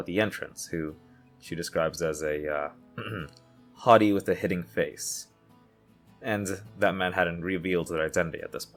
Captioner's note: ahem